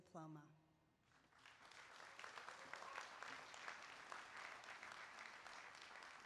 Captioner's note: applause